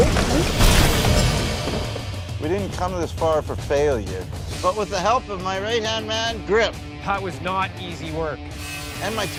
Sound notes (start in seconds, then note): 0.0 smashes